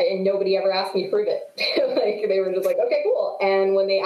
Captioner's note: chuckles